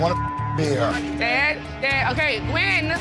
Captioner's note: beep